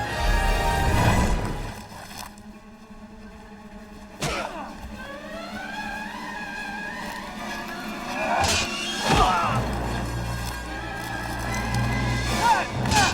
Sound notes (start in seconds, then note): 8.1 grunting; 8.4 metal clanking